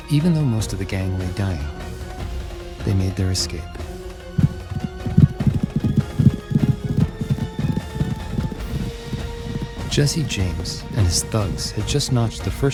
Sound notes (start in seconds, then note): 4.3 horses trolloping; 4.9 lively music